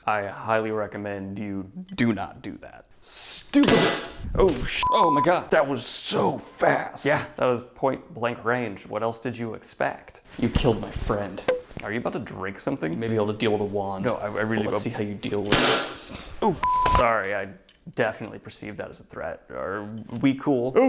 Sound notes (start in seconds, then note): 3.6 gunshot; 11.4 bottle popping; 15.5 gunshot